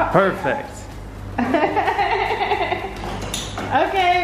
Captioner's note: laughing